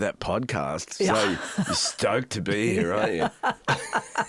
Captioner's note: laughs